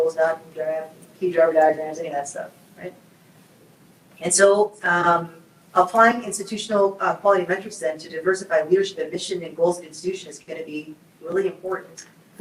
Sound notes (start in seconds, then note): none